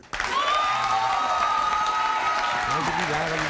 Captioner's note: applauding; crowd cheering